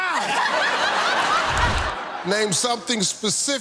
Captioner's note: laughter